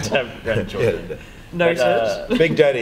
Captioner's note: laughter